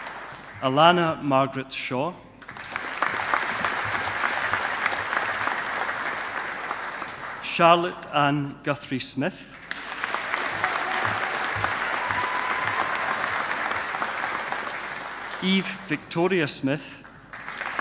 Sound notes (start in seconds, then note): 2.4 audience applauding; 9.6 audience applauding